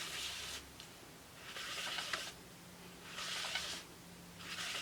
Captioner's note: lint roller rolling